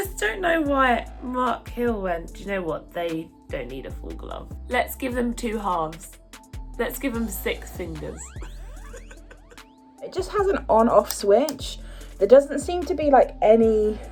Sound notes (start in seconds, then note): 8.4 laughs